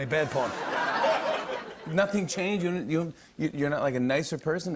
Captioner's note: light laughter